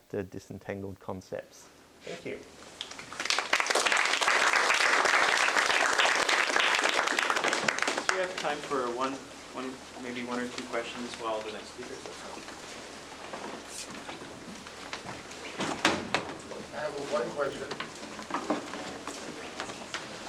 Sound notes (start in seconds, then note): 2.8 applause; 12.1 background chatter